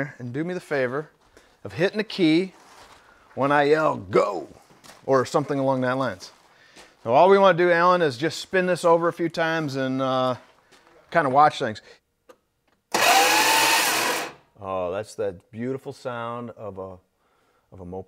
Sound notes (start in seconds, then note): 12.9 starter revving